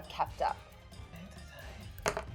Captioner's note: die rolling